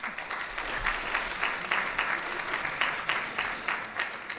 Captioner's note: applause